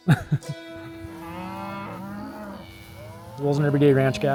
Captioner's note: laughs; cattle mooing